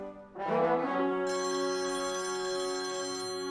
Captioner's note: phone rings